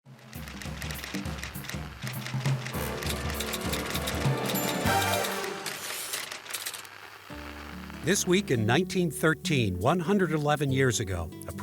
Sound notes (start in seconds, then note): 0.4 typewriter clicking; 0.4 upbeat music